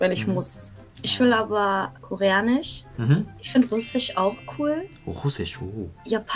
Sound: German

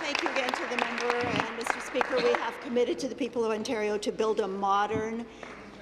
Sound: applause

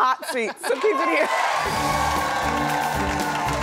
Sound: audience cheering; dramatic music

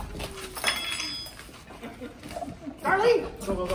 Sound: audience laughing; spoon falling

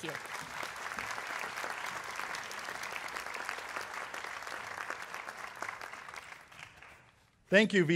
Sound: applause

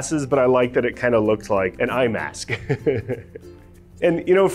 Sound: laugh

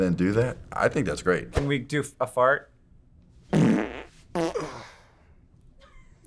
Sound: fart noises

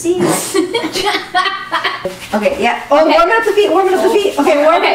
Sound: laughs

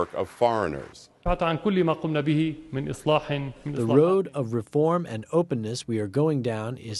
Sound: through translator

